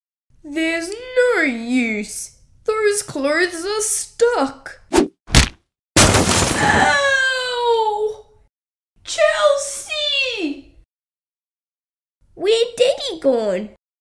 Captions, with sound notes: There's no use! Those clothes are stuck! (Bang!) (Crash!) Owwwww! Chelsea! Where Daddy gone?